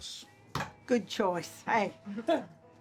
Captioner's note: hits counter